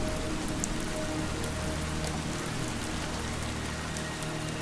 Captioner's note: rain and wind